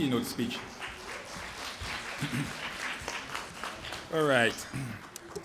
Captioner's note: applause